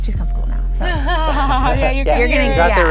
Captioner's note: laughing